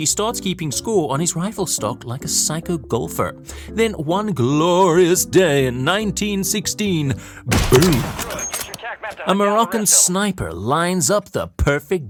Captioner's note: gunshot SFX